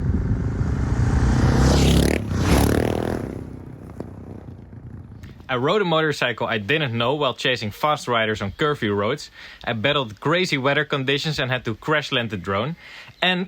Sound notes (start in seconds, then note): 2.0 motorcycles passing